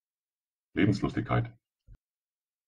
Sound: fast Pronunciation

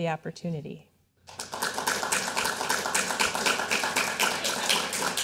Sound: audience applauding

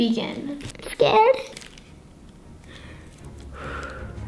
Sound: sighs; dramatic music

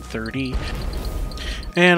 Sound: very unnecessary explosion

